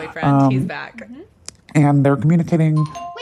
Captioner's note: bingbong